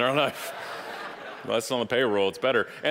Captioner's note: audience laughing